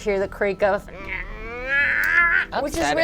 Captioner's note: imitates creaking